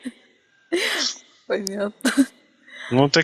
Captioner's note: laughing; laughing